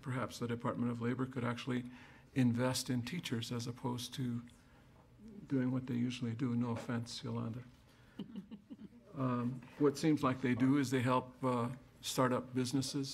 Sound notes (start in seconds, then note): 8.1 chuckles